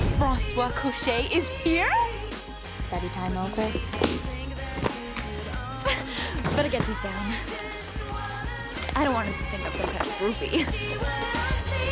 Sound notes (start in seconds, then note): 5.8 giggles